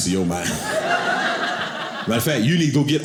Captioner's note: audience laughing